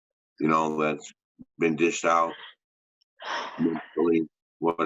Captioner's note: sighs